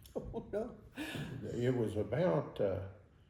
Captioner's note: chuckles